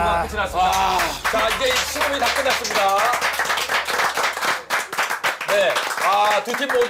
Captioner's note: A round of applause for both teams